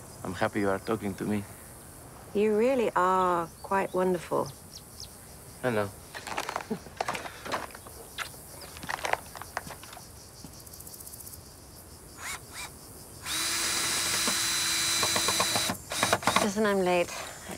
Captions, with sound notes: I’m happy you are talking to me. You really are quite wonderful. I know. [Chuckles] [Kisses] Listen, I’m late.